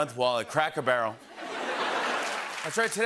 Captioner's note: laughter and applause